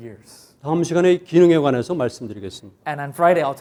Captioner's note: speaking in Korean